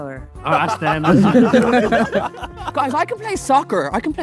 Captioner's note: group laughing